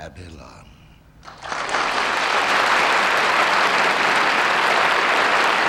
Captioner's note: audience applauding